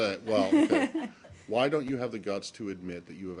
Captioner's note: laughter